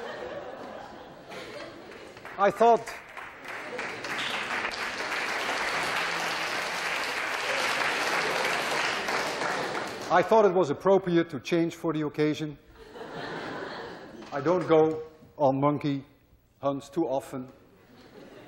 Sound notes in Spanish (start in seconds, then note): 3.8 clase aplaude